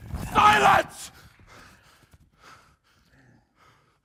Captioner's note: panting